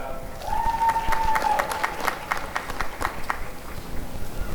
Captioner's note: applause and cheering